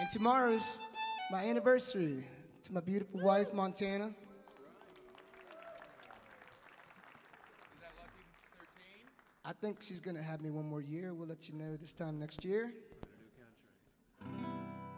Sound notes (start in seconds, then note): 3.8 audience applauds